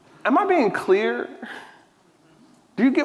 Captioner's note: none